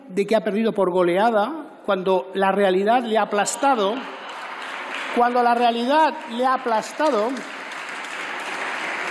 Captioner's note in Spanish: risas y aplausos